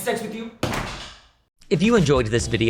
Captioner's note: door slams